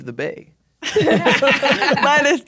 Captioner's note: players laughing